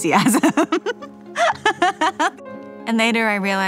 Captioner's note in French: rires